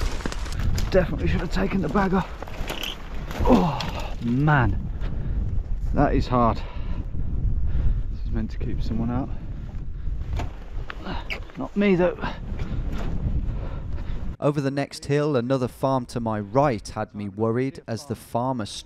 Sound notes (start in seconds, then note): 14.5 voiceover